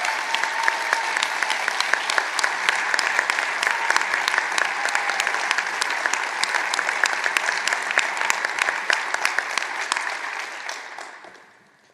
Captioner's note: applause